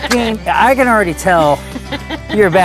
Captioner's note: laughing